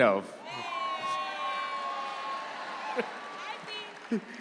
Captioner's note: audience cheers